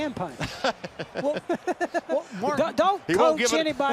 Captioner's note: laughter